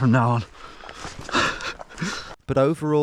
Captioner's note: laughing